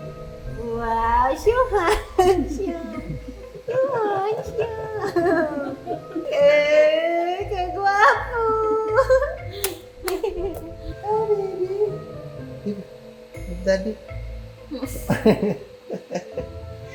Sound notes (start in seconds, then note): 2.9 everyone giggles; 14.9 laughs